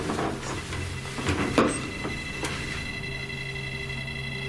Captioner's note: beeping